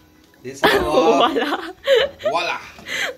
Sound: laughing

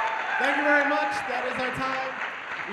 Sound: cheers and applause

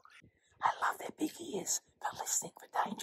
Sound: whispers

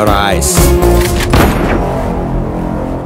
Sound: bullet fired

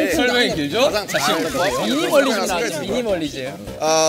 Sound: noisy chatter

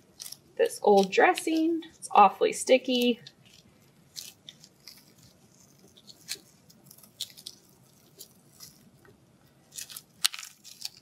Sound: silence

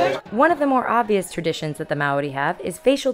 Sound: voiceover

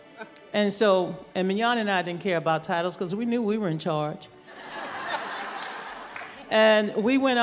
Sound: laughter

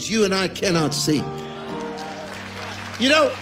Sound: congregation clapping

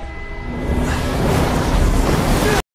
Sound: snarl; gusting wind

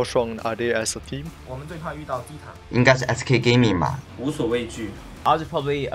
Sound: speaking in foreign language

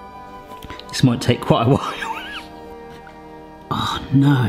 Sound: wheezes

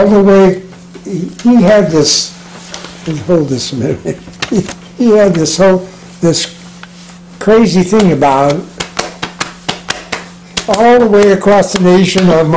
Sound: making slapping noises

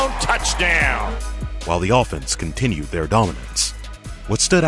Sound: voiceover

